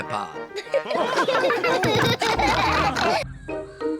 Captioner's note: chuckles; all laugh